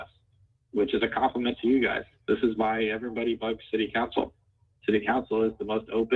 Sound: ~audio distortion~

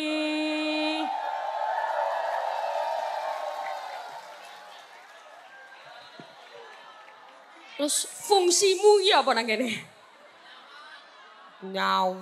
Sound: applause

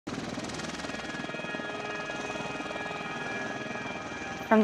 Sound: helicopter whirring

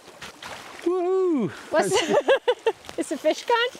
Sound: both laughing

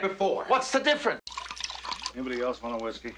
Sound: pouring drinks

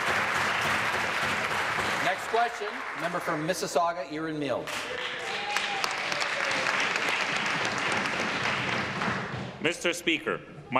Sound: applause

